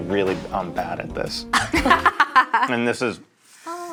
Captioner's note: laughing